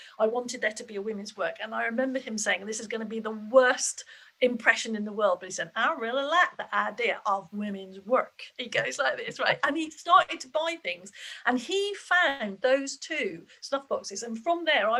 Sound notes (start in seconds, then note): 5.9 in a Southern twang